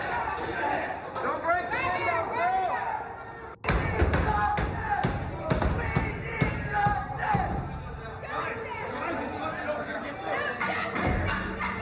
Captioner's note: yelling